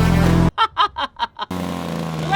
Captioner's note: laughing